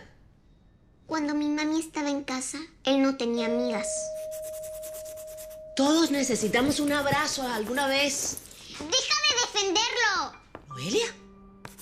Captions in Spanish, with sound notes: - Cuando mi mami estaba en casa, él no tenía amigas. [Suena timbre] - Todos necesitamos un abrazo alguna vez. - ¡Deja de defenderlo! - ¡Noelia!